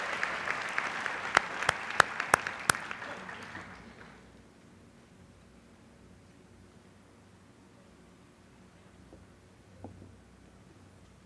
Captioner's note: applause